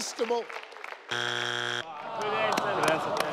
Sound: buzz sound

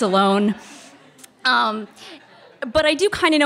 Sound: audience laughter

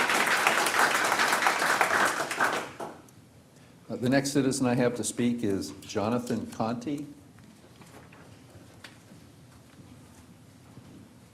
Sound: applause

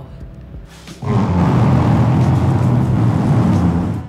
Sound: couch scraping

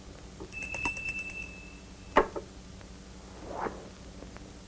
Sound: bell rings

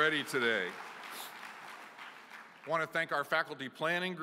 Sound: applause

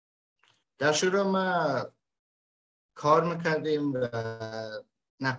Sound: speaks in Dari

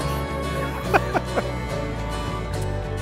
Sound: chuckling

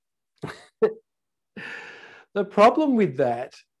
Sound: laughing

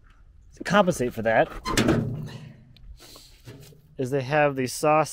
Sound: metal door clangs

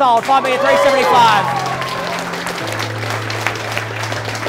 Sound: applause

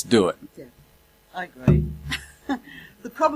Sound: laughs

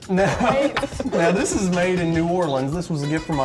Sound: laughter

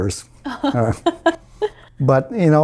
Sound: laughs

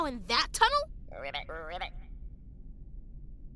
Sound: frog croaking

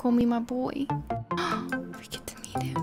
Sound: gasp

